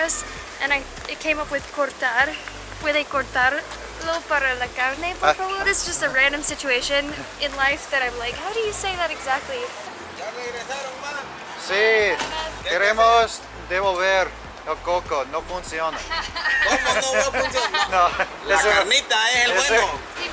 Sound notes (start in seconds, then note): 15.9 laughter